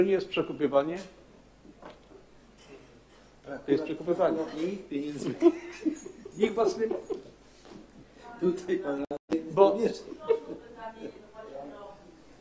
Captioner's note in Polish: podśmiechiwanie, jąkanie